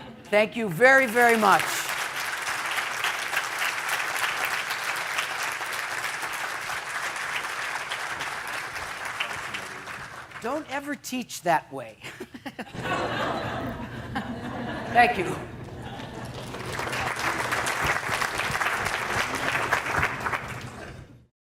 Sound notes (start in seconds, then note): 0.7 applause; 12.0 laughter; 15.7 applause